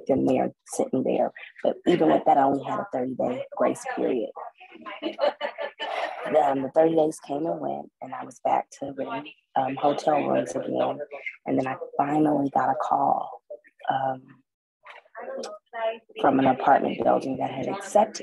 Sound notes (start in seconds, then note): 4.8 laughter sound